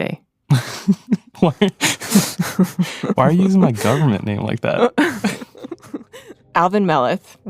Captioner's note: both chuckle; both laugh